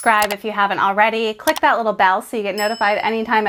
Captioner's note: subscribe sound; click sound; bell dings